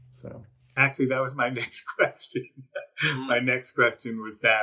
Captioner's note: laughs